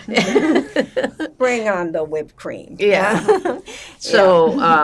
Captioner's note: laughing; laughing